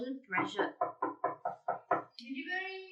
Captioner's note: knock knock knock knock knock